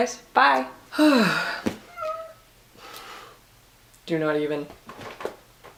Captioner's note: sigh; cat meows